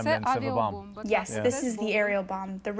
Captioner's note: through translator